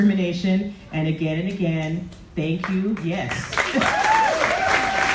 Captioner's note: audience applauds